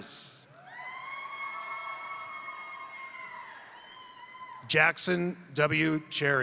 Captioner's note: crowd cheering; crowd applauding